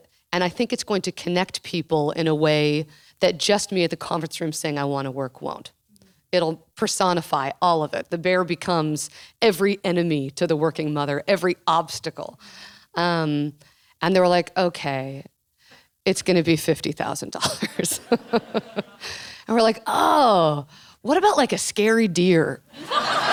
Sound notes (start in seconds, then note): 17.5 laughing